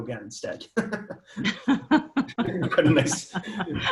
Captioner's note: both laugh